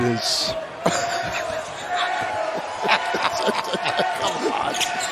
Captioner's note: laughter